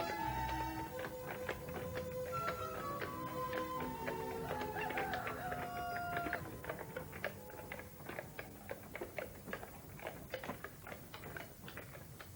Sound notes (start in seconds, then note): 3.5 cockerel crows; 7.1 horses' hooves